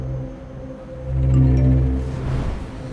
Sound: message tone

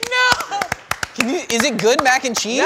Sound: cast claps

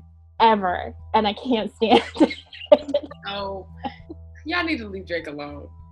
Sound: laughing

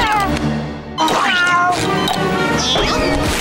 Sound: meowing

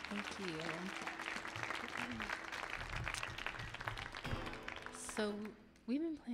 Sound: audience applauding

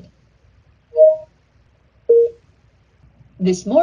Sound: phone beeps

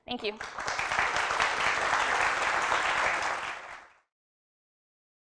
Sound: applause

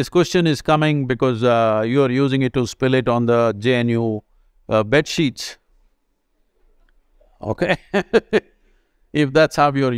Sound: laughs

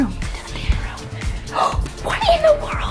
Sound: gasps; whispering

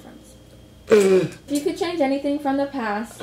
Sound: does like a raspberry laugh thing

